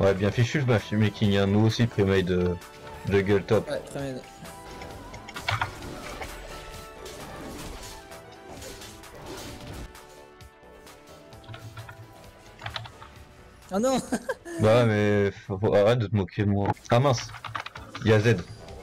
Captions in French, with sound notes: ouais, bien fichu le matchmaking, nous aussi premade jungle top oh non (rire) ben ouais mais, arrêtes de te moquer de moi ah mince il y a Zed